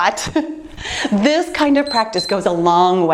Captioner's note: timer beeps